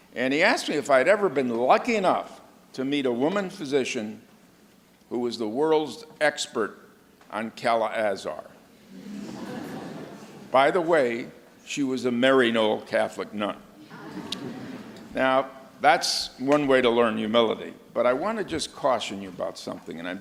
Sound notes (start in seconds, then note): 8.8 audience laughs